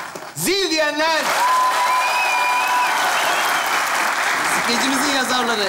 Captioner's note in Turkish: Alkış ve ıslık sesleri